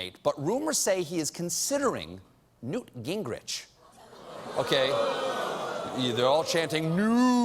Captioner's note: audience reacts